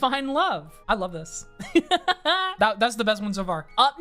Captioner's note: laughs